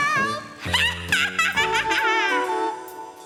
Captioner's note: laughs; cheerful music